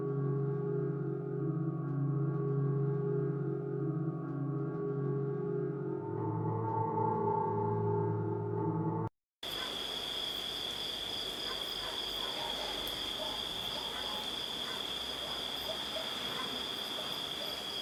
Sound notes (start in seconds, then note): 9.4 insects chirping; 11.4 dog barking